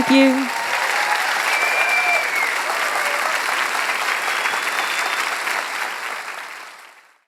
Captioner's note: applause